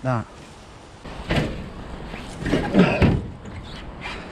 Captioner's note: metal clanking